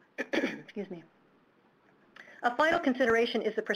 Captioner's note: clearing throat